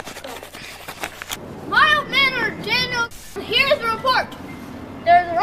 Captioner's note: static